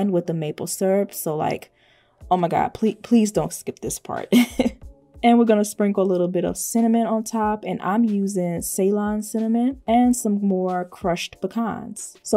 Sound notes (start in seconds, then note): 4.3 chuckles